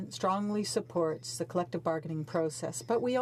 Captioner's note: speaking French